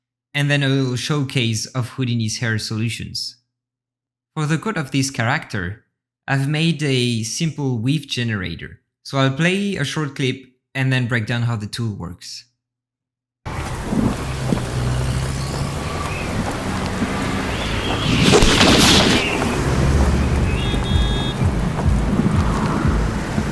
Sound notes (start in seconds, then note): 13.7 rain pattering; 15.9 sounds of traffic